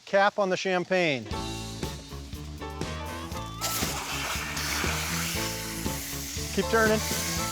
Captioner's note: water spraying